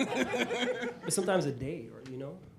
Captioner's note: laughter